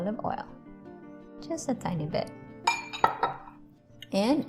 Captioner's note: bottle tings